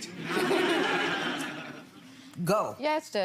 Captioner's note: audience laughing